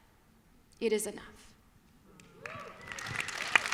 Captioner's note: applause